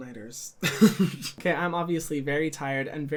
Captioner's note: laughs